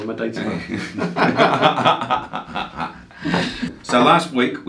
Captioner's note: laugh